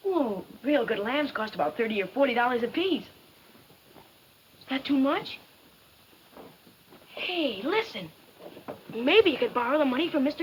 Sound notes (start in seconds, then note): none